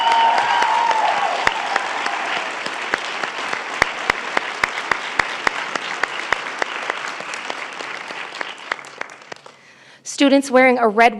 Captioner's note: applause